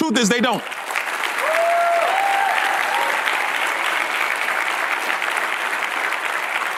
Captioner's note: audience cheers and applause